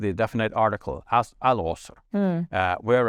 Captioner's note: speaks in foreign language